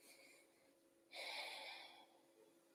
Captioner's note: exhale